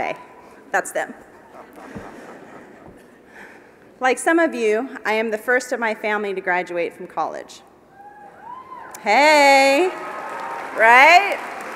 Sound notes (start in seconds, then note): 1.0 laugh; 9.8 applause